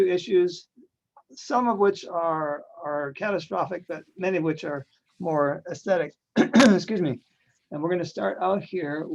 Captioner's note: clears throat